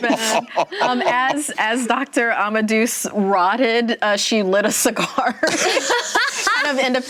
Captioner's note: laughter; laughter